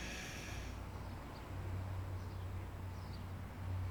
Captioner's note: water spraying sounds